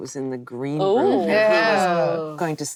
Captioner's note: actresses reacting